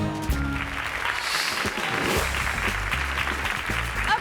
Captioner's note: playful music; hands clapping; graphics whooshing